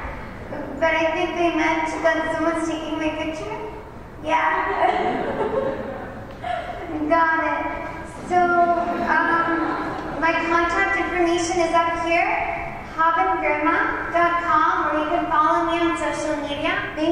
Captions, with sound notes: But I think they meant that someone is taking my picture? Yea? (Laughter) You got it! So...Um... My contact information is up here: HabenGirma.com or you can follow me on social media.